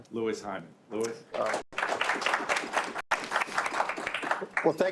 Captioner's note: applause